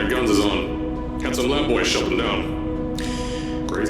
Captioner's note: sigh